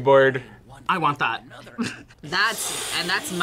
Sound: laughs

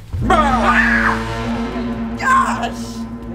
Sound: screams

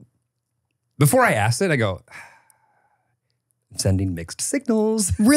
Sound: sighs

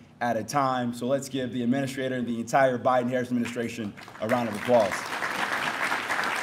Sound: applause

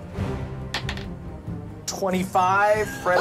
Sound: dice clatters

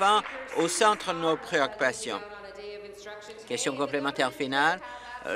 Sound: applause

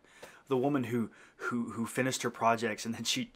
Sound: sighing

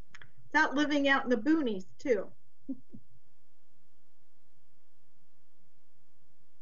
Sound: chuckles

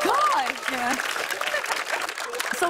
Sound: applause

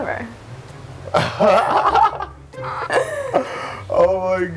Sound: laughs

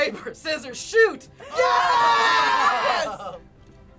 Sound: exclaiming

